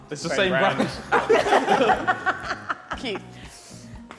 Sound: all laughing

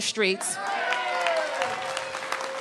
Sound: applause

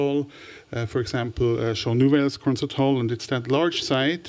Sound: french

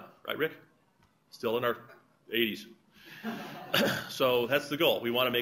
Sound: laughter

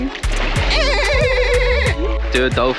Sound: dolphin sounds

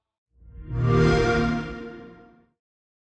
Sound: Xbox Sound

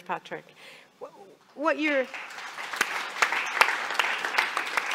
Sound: audience applauding

